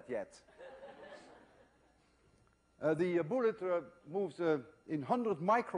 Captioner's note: laughter